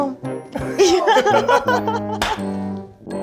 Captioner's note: all laughing; clapping hands